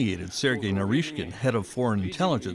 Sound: speaking Foreign Language

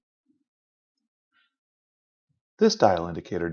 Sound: silence

